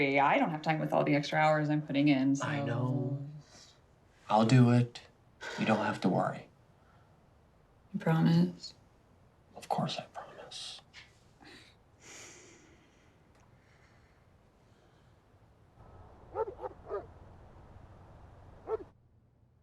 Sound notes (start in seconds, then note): 16.3 dog barking